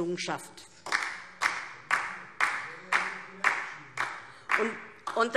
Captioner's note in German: Beifall DIE LINKE